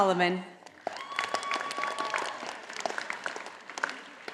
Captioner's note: audience applauding